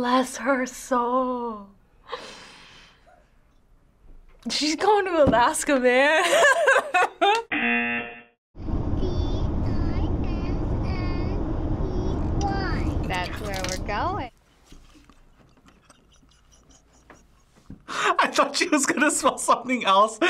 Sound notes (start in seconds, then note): 6.2 laughs; 7.5 buzzer rings; 15.8 laughs